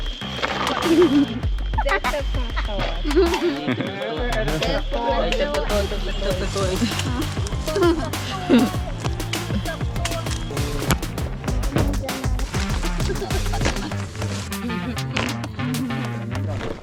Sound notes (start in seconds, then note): 1.0 children laughing; 6.4 urban upbeat music